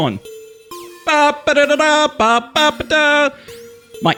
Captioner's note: hums Final Fantasy fanfare